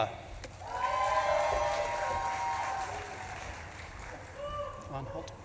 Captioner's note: audience claps and cheers